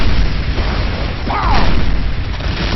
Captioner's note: dying sound